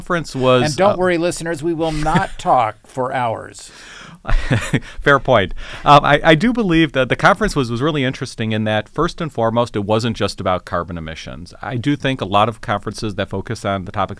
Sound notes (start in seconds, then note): 4.3 laugh